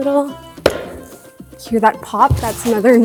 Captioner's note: nail pops